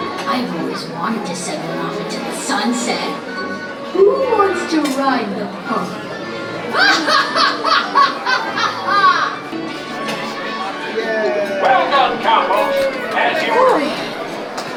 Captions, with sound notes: "I always wanted to send one off into the sunset." "Who wants to ride the pony?" [Childish evil laughter] Well done, cowboys. As you were.